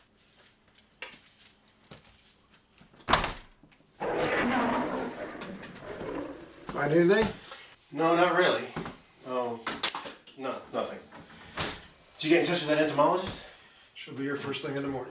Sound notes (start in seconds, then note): 4.0 low roar